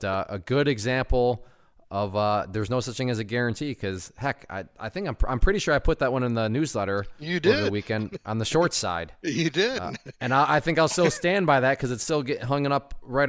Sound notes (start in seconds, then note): 9.2 laughs